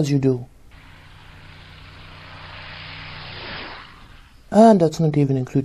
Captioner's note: Sound of vintage plane is heard, as Marcel follows its flight path overhead